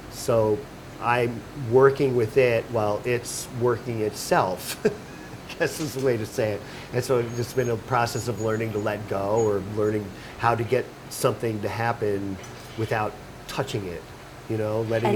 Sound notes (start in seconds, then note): 4.6 laughing